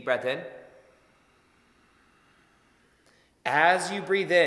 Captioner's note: inhaling